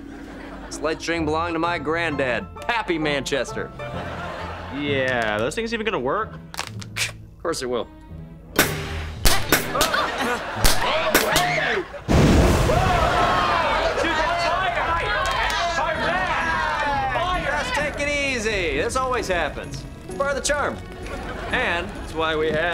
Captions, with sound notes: This light string belonged to my granddad, Pappy Manchester. Yeah, those things even gonna work? Course they will. [groaning, screaming] Whoa! [chattering] Fire! Just take it easy. This always happens. It's part of the charm... and that's why we have...